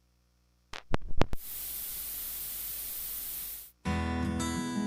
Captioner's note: radio static